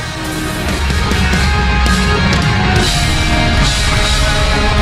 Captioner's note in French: Applaudissements